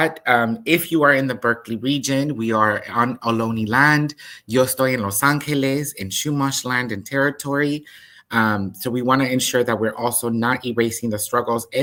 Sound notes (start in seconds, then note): 4.7 speaks in Spanish